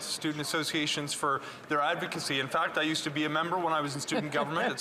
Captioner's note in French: voix de l'interprète